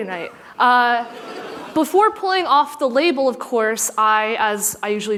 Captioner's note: laughter